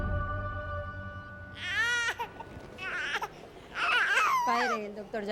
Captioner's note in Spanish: Llanto de bebé